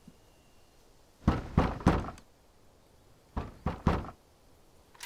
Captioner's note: bangs on door